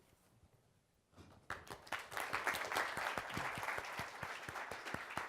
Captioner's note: applause